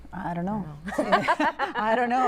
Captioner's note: laughter